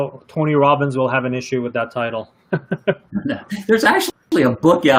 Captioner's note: laughs